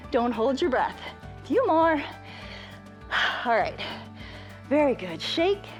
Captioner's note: exhales